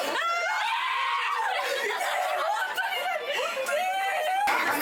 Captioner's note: laughs